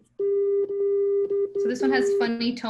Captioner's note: beeping noises